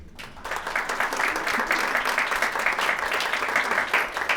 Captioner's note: audience applauding